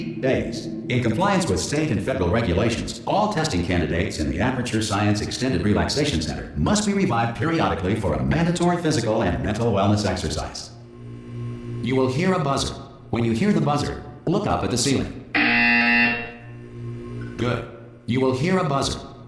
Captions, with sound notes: days. In compliance with state and federal regulations, all testing candidates in the Aperture Science™ Extended Relaxation Center must be revived periodically for a mandatory physical and mental wellness exercise." "You will hear a buzzer. When you hear the buzzer, look up at the ceiling." [BZZZZZzzT] "Good. You will hear a buzzer.